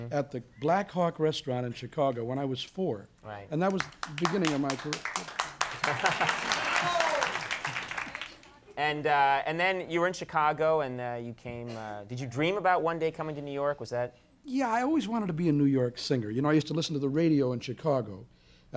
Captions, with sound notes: at the Blackhawk restaurant in Chicago when I was four. And that was the beginning of my career. (a couple audience members clap) And then you were in Chicago and you came, did you dream about one day coming to New York? Was that... Yeah, I always wanted to be a New York singer. You know, I used to listen to the radio in Chicago